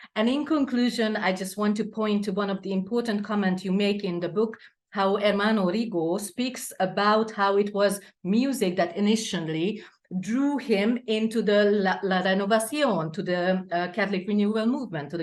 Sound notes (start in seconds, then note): 10.9 speaks Spanish